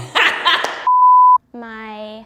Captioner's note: both laugh loudly; electronic beep